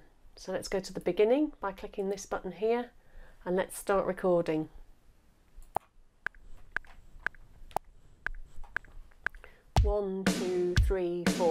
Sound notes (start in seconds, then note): 5.8 metronome clicking; 9.7 drums beating